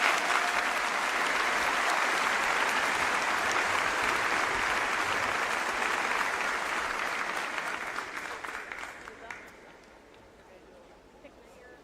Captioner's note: applause